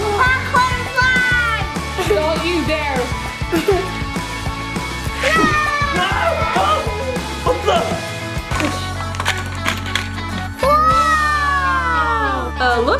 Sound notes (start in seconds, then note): 5.2 screams; 5.2 shouts